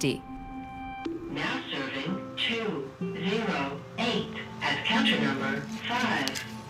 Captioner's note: none